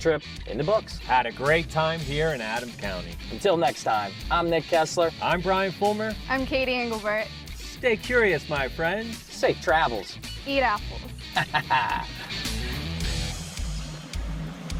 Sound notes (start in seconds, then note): 11.2 laughs; 12.7 upbeat music